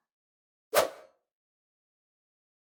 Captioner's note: swish